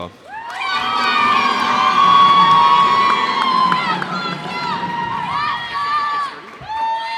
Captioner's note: cheers and applause